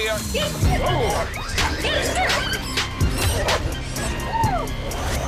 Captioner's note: growling